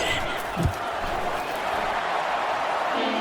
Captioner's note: crowd Noises